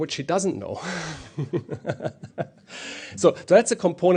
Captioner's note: laughs